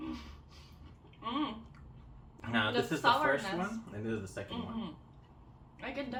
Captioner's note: eating